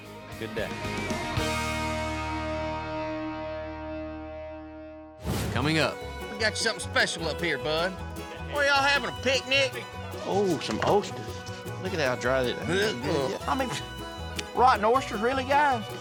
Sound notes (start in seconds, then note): 11.9 dry heaving